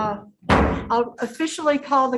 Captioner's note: gavel bangs